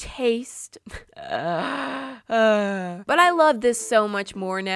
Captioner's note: tired exhausted groan